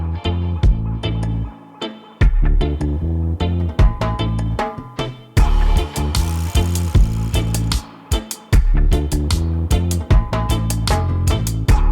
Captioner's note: reggae music; screeching sound of car brakes